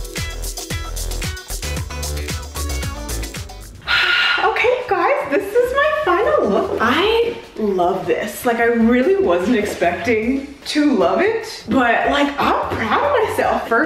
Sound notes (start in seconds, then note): 3.8 sighs